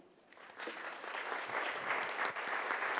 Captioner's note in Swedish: Applause